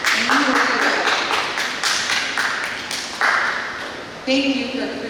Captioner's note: applause